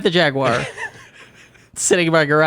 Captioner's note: laughing